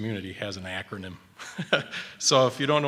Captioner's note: chuckles